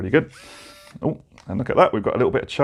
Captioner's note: buzzing